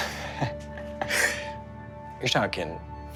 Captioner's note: laughs